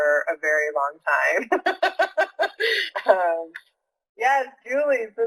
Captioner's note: laughing